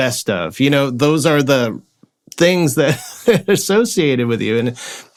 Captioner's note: laughter